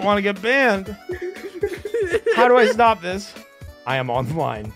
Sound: laughter

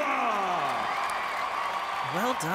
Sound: audience cheering

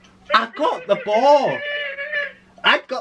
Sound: excited

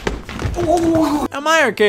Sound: gurgling

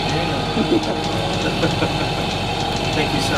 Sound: laugh

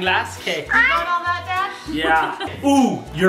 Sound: laughs

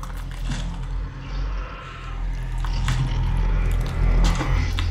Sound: monster growling

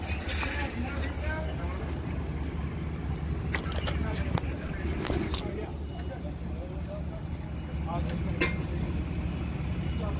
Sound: workers chatter

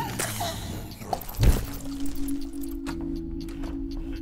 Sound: deflating; bat squeaks; bloody splat; door opens

